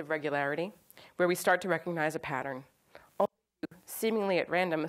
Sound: audio skips

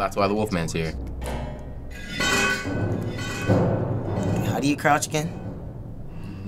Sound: metal sliding

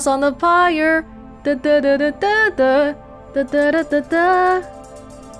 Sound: Humming Iris' song

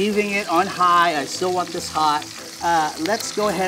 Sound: chicken sizzles

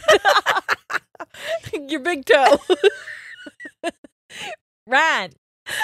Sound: both laughing

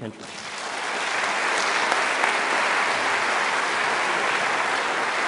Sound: applause

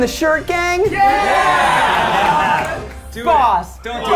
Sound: all cheering

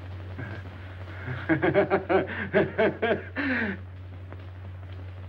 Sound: laughing

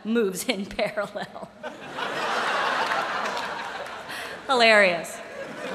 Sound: laughter; laughter

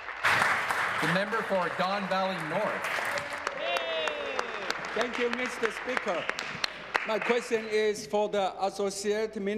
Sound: applause

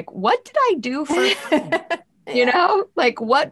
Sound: laughing

